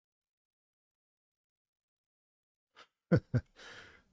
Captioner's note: laughter